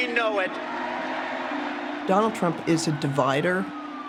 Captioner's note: crowd cheering